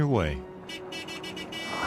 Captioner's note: horn honking